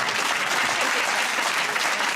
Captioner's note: laughter and applause